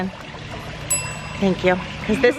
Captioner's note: ding